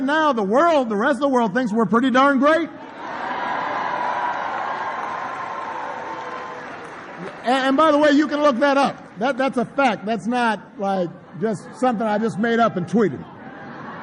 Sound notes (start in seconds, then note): 2.8 applause; 13.7 laughter